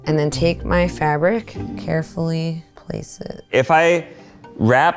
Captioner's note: none